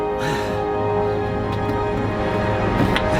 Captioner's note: sighs